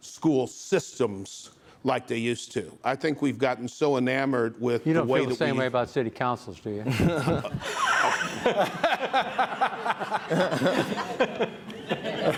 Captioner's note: laughter